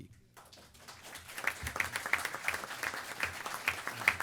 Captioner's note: applause